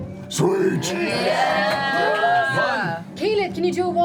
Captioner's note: cheering